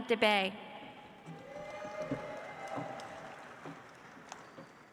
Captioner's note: audience applauds